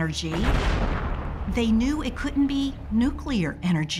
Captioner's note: explosion roars